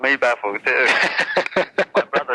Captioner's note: laughs